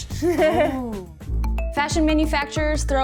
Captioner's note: both laugh